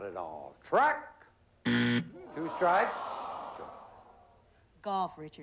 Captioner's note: buzzer